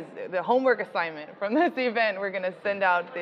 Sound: laughing

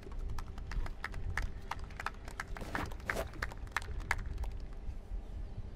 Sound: applause

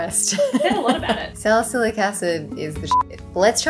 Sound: beep

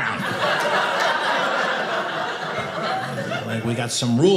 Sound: audience laughing

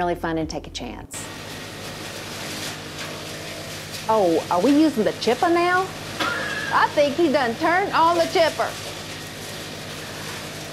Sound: chipper noise

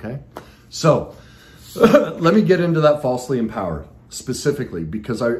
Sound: coughs

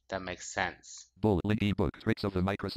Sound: screen reader voice

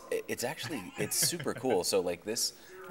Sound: laughing

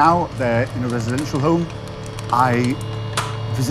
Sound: plastic clanking

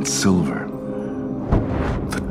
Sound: whoosh of flames

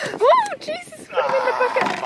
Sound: screams

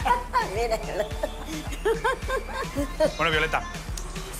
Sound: laughing; laughs

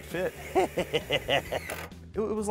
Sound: chuckles

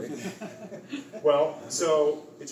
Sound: laughter

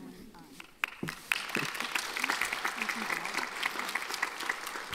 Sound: audience applauding

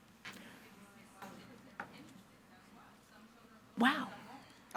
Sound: faintly speaking

